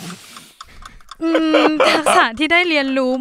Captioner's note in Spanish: Risas